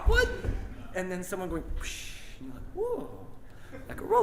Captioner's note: air whooshing